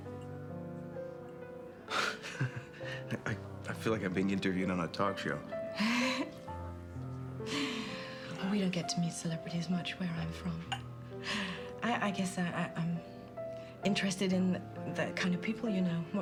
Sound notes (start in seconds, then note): 2.0 laughs; 5.8 laughs